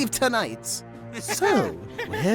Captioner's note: Balloon and Nickel laughing